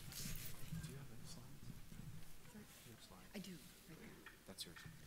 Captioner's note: muttering off-microphone